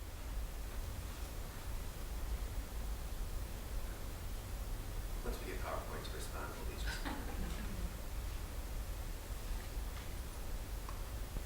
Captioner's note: background chatter